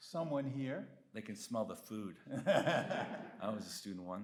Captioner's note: Bob laughs